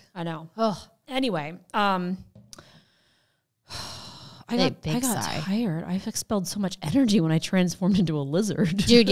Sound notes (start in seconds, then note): 4.1 sighing